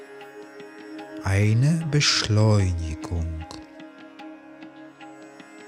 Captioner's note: german